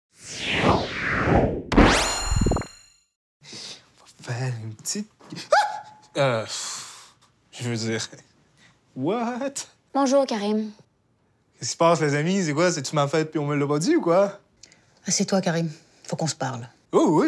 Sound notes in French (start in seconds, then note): 5.4 cri de surprise